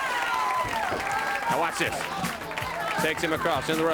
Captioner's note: crowd cheering